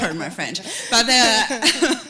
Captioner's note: laughter